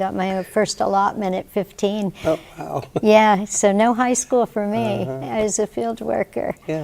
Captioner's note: chuckles